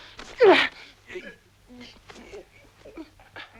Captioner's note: both grunting